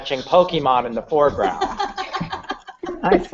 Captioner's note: laughter